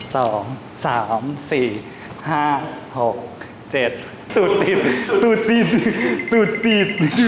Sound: laugh

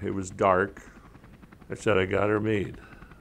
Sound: helicopter whirring

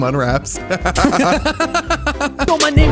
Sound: laughing

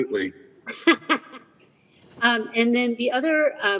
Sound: laughs

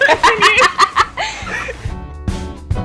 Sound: both laughing; upbeat music continues

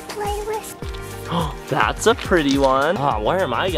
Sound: gasps

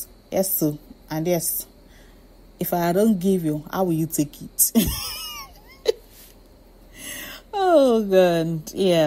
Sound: laughs

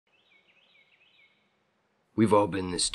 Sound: wren singing

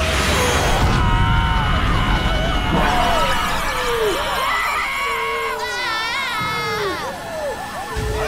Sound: screaming

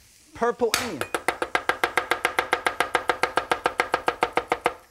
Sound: sound of chopping

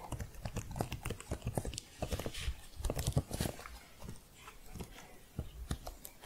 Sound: typing continues

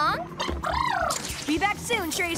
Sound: trilling

